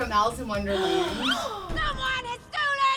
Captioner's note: gasps